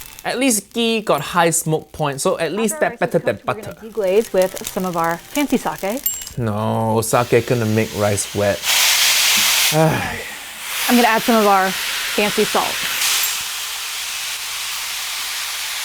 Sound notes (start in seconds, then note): 8.7 dish sizzling; 9.7 Uncle Roger sighs; 13.0 dish sizzling